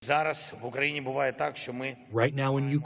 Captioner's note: through translator